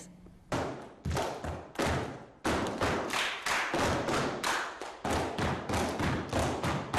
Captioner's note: dancers tapping; dancers clapping